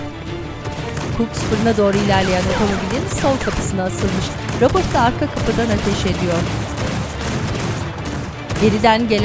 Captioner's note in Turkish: Silah sesleri